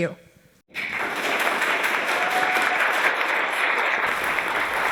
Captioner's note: audience applauding